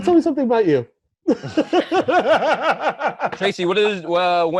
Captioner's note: laughter